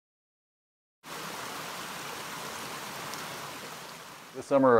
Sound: sound of water in a stream

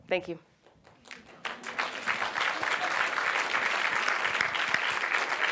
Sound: audience applauds

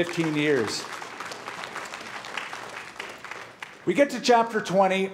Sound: applause

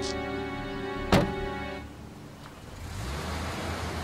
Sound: car door slams

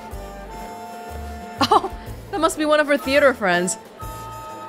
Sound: chuckles

